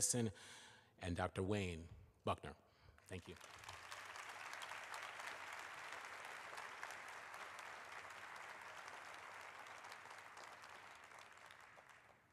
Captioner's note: applause